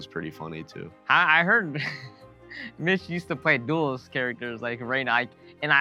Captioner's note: laughs